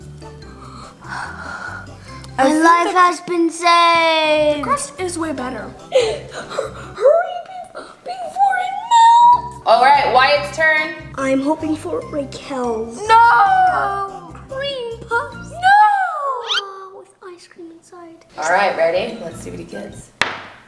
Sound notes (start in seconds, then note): 0.5 gasps; 6.2 cries; 20.2 thud